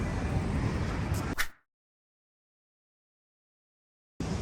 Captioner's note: very Windy